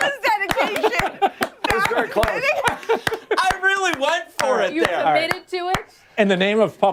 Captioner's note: laughter